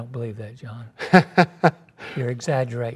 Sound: laughs

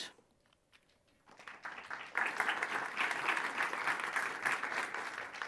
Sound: audience applauding

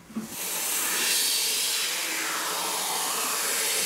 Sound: machine noise

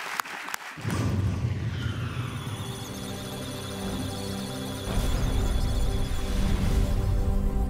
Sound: electronic sounds of data; musical tones

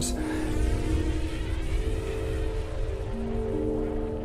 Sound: planets sizzling

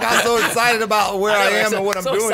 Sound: all laugh

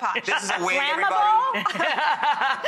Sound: laughing

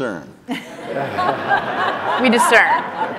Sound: audience laughing

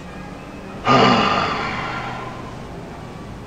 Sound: sighs furiously

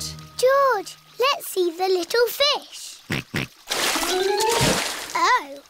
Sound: snorts

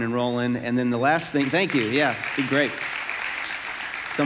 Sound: congregation clapping

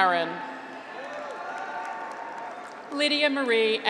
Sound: graduates cheer

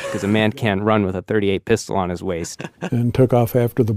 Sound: laughs

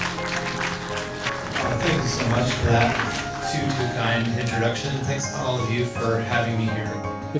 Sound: clapping

